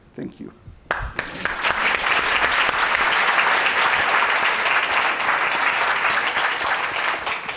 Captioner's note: audience applause